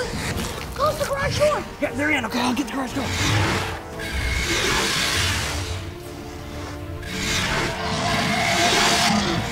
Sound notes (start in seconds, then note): 3.7 dinosaurs roaring; 3.7 dramatic music